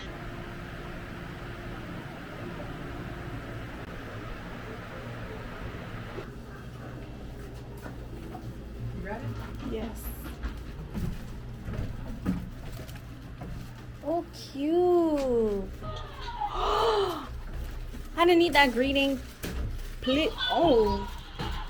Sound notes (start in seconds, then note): 16.6 slow gasp